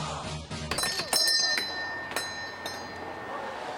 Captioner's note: bell chimes